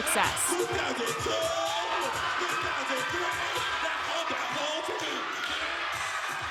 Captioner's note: crowd cheering